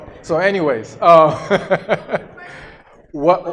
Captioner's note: laughs